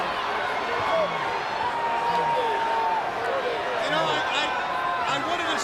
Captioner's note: crowd cheering